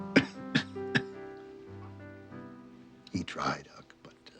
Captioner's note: laughs; coughing